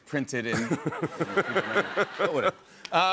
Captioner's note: laughter